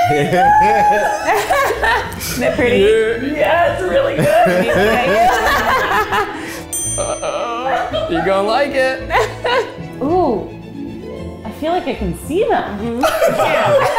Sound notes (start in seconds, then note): 4.1 laughs